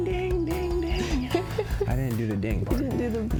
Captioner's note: laughs